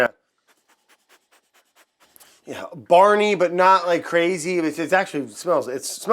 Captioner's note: sniffs